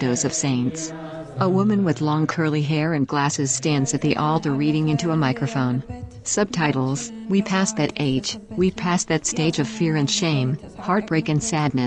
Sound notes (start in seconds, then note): 3.8 non-english speech